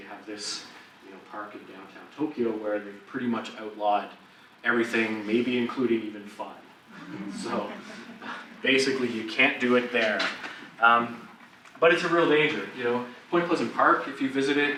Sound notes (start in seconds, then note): 6.9 audience laughs